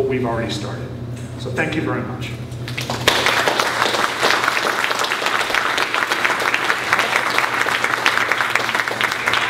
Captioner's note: applause